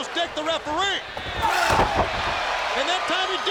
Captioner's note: crowd cheering; Booker shouting